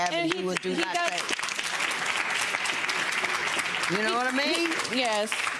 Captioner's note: audience applause drowns out